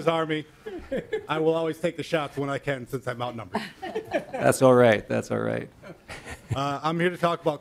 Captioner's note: laughing